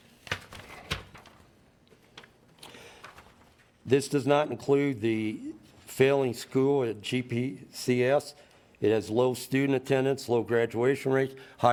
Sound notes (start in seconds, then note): 0.6 paper shuffling